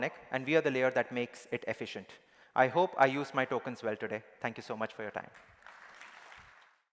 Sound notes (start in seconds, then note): 5.3 applause